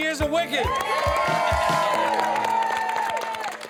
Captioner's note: all cheering